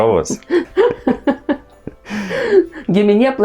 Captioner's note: both laughing in Lithuanian